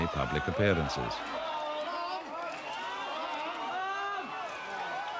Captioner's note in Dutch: publiek schreeuwt